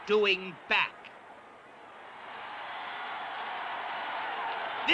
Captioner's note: crowd shouting